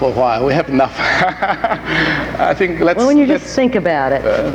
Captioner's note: laughs